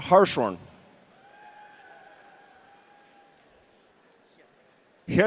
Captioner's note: audience cheering